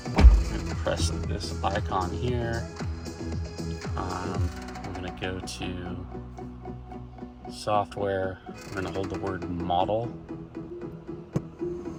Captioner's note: car